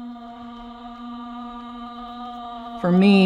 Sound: soft humming continues

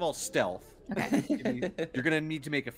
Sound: chuckling

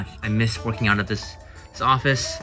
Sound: none

